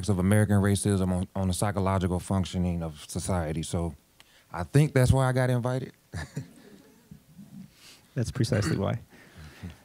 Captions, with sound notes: of American racism on the psychological functioning of society, so I think that's why I got invited. (audience laughing) >> That's precisely why.